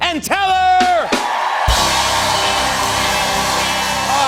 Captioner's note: cheers and applause